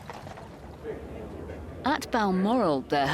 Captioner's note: people chattering